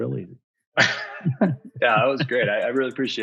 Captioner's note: laughing